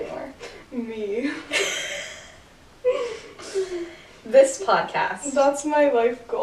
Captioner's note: laughter